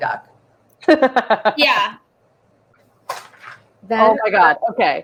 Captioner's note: laughs